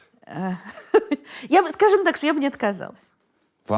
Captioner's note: laughs